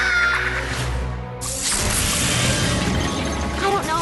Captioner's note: screams; whoosh